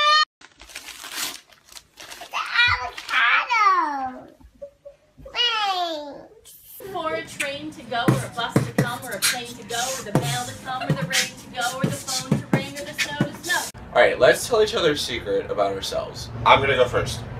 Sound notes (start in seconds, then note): 0.4 wrapping paper ripping; 8.7 beatboxing begins